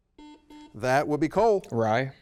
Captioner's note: double beep